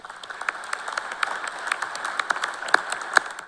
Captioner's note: applause